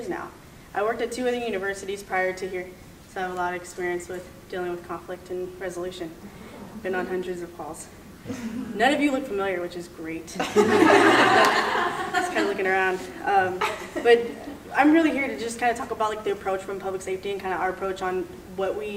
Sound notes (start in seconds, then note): 10.4 laughing